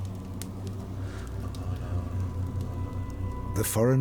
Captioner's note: chanting